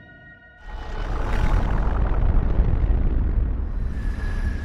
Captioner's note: mysterious music; letters buzzing